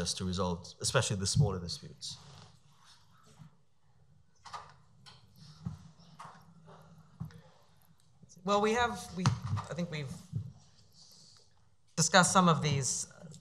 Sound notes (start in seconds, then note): none